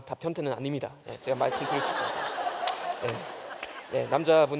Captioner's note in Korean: 웃음